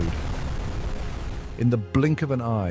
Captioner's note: water churning violently